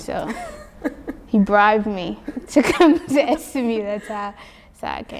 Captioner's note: laughs